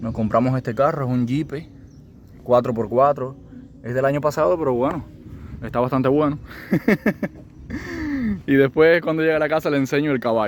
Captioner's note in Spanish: risas